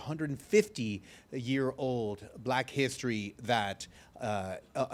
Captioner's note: none